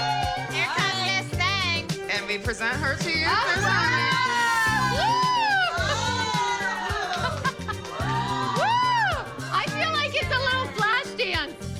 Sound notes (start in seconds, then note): 3.4 whooping; 6.9 laughing, whooping